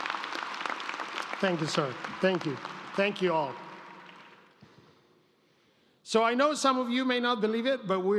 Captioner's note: applause